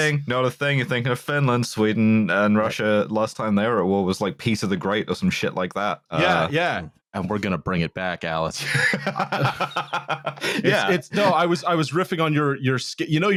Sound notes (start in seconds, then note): 8.6 laughs